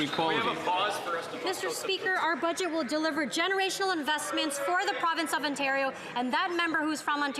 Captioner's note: some Applause